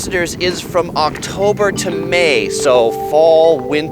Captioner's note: bells chiming